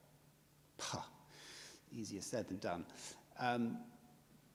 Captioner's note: scoffs